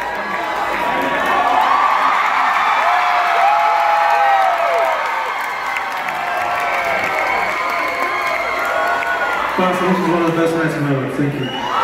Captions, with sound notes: [Cheering grows] Boston this was one of the best night of my life, Thank you